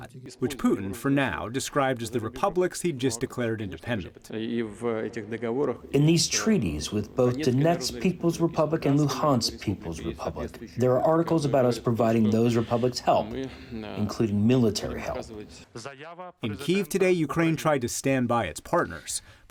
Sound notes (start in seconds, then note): 5.2 through translator